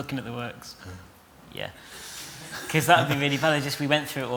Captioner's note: laughter